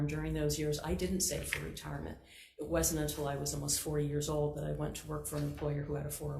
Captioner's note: none